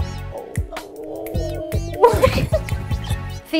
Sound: snapping & laughing

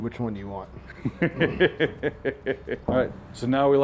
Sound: laughs

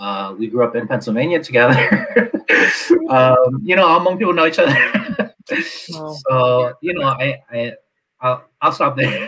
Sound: laughs

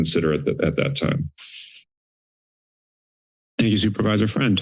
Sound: silence

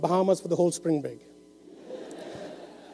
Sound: laughter

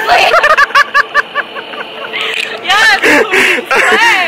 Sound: laughing

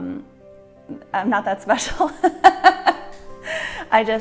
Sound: laughs

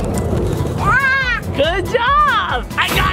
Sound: screams

